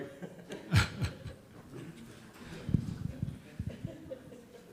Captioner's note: and audience laughs